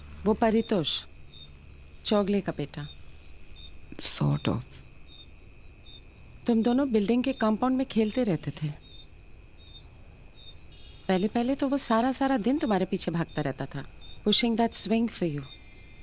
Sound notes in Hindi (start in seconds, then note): none